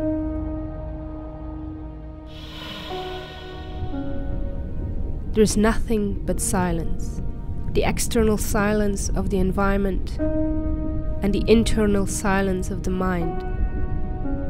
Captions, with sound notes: [Deep breath under snorkel] there's nothing but silence the external silence of the environment and the internal silence of the mind